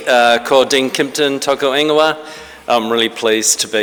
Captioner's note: speaking in foreign language